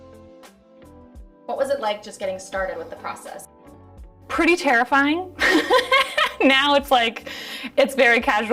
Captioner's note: laughs